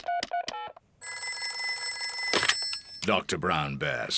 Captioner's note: beeping; phone rings